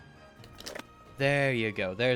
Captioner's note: gun is holstered; gun slide racks